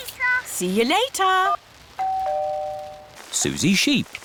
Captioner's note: doorbell rings